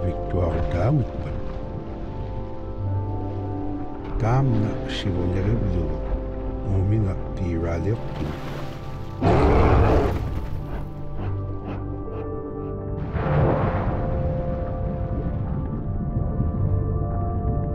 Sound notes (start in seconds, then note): 9.2 growls